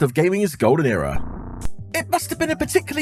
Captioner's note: none